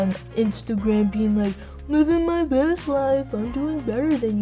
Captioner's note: mocking